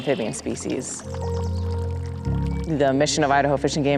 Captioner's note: birds chirping; water dripping